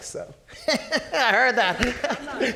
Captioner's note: laughing